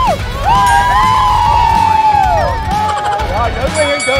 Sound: constant screaming

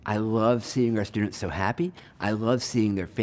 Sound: none

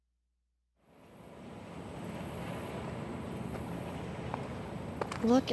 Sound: waves crashing

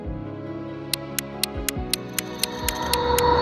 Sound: clock ticking; dramatic music

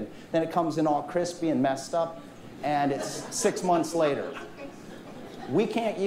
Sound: laughter from audience

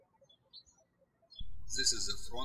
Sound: birds chirping

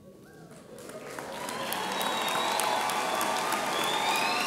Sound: audience applauds

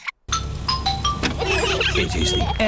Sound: trumpets; horns honking

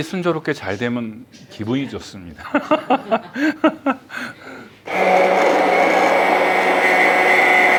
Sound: laughs

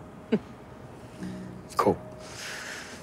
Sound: chuckles

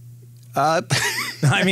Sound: laughs

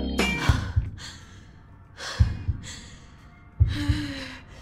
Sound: heavy breathing; pulsating drum beat

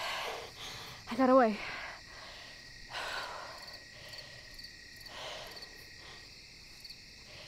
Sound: insects chirping

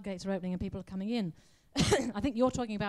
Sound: coughs

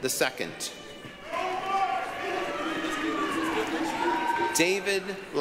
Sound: applause, cheering

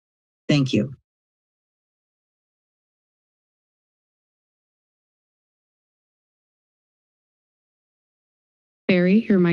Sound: silence

